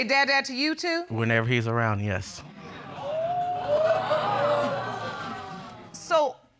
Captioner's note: audience exclaim